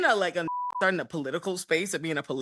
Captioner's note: beep